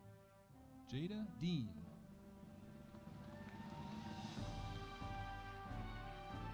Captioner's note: audience cheering